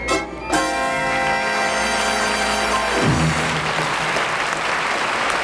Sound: audience clapping

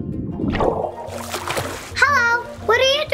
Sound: water swishing; water splashing

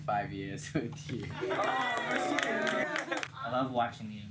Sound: cheers and applause

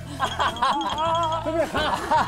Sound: tickling

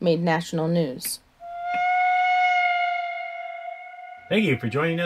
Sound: sound of haunting train whistle in the distance

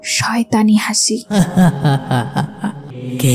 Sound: Jinn's Laugh

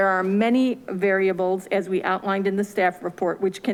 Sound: none

